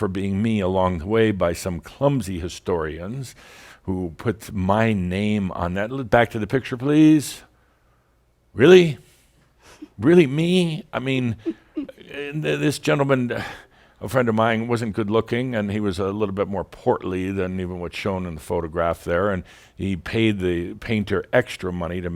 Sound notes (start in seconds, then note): 11.2 giggles